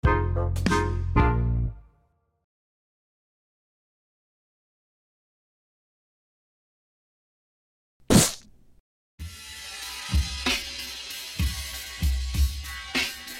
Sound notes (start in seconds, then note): 8.0 whack; 9.8 slow drum roll